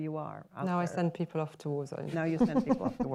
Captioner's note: chuckles